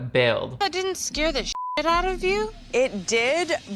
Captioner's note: beep